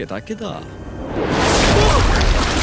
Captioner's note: air rushing